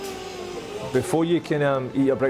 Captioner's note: baby crying